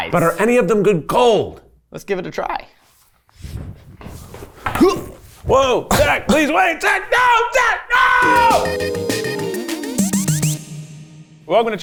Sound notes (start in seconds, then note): 4.8 grunting; 8.2 upbeat music